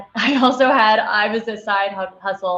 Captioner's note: laughing